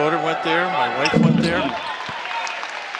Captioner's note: laughs